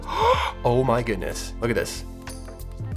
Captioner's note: gasping